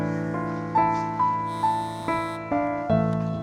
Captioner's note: phone ringing